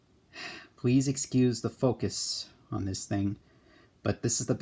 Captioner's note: sighs